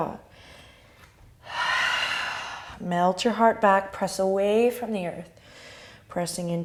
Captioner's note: exhale